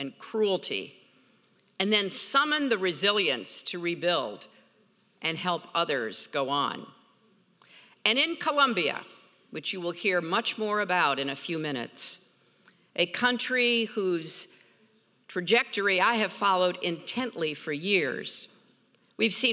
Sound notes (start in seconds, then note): none